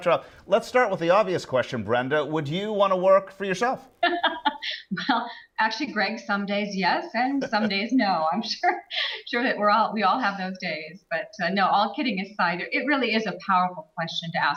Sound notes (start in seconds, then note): 3.9 laughs